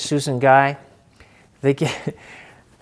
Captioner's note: chuckling